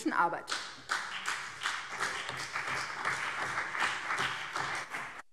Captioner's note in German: Beifall BÜNDNIS 90/DIE GRÜNEN und CDU